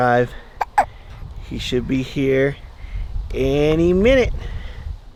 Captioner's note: hiccups